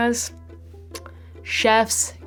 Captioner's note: lips smacking